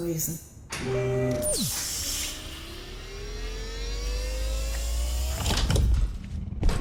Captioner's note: automated door opens